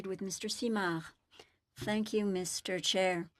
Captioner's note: speaking FRENCH